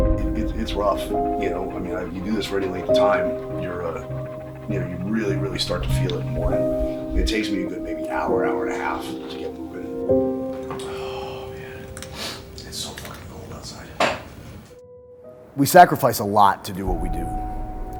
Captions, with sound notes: It-- It's rough, you know. I mean like you do this for any length of time, you uh, yeah, you're really really start to feel it more It takes me a good maybe hour, hour and a half to get moving [soft piano music playing] Oh, yeah. [sniffling] It's so fucking cold outside. [thump] We sacrifice a lot to do what we do.